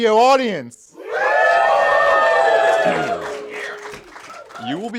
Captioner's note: cheers